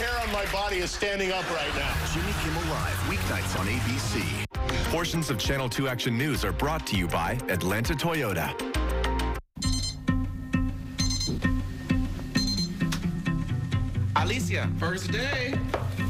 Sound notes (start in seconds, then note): 9.6 alarm beeps